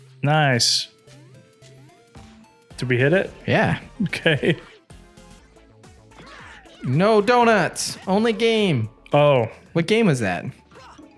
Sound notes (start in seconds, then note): 6.6 laughs